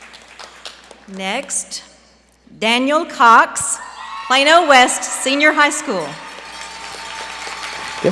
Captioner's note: applause